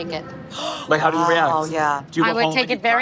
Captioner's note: gasps